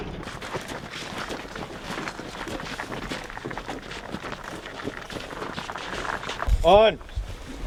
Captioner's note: sounds of crew's feet crunching in the snow